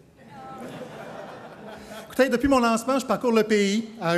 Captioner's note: crowd laughs